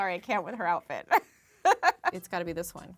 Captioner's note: laughs